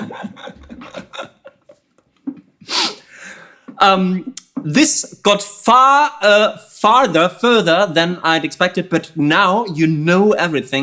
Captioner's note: laughter